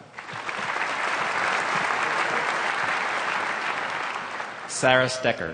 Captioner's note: applause